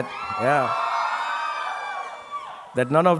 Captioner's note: audience cheering